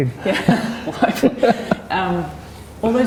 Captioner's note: both laughing